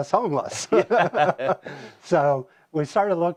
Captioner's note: laughter